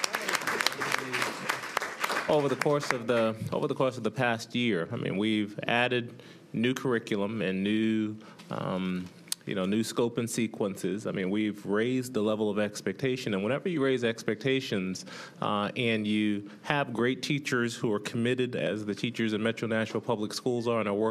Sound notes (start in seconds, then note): 3.1 applause